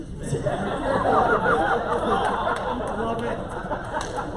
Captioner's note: laughter